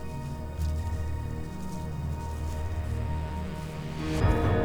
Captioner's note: grass rustling; melodic orchestral music